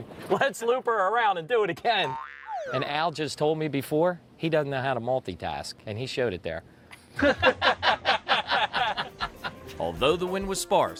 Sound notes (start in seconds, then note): 2.0 cartoon oops effect; 7.2 laughing